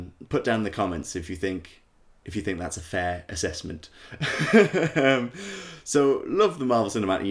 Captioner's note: laughter